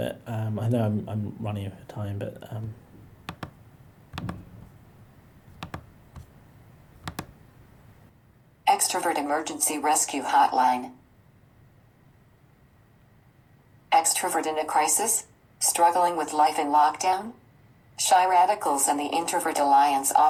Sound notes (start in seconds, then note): 3.5 keyboard clicking; 8.8 automated Voice